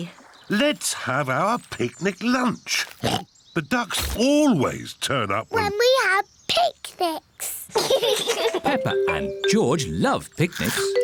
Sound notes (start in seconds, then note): 3.0 oinks; 7.7 both laugh